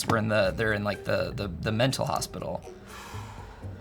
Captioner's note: none